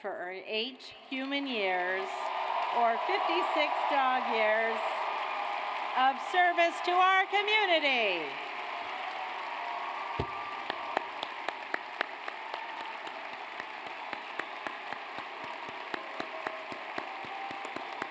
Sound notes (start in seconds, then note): 9.3 audience cheers